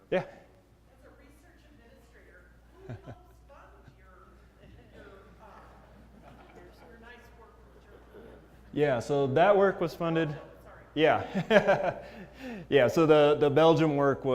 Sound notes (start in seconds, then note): 11.2 laugh